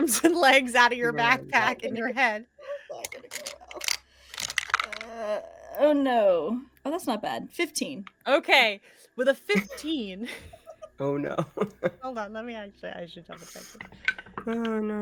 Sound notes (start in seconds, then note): 10.2 laughs